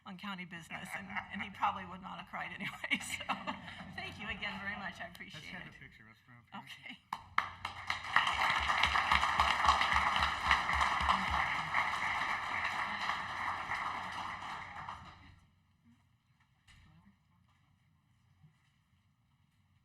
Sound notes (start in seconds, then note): 12.3 applause